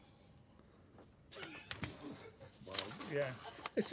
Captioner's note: laughter